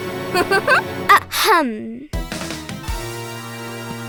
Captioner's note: laughing; clearing throat